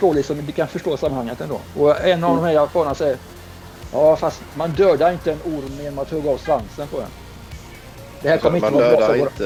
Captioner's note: in CitySpeak